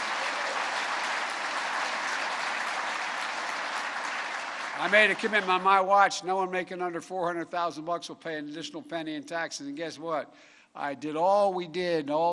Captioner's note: applause